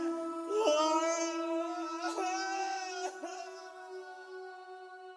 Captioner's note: anguished sobbing